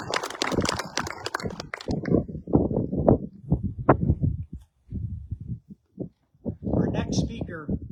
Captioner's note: applause